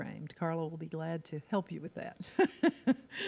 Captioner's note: laughs